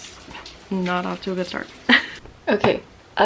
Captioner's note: laughs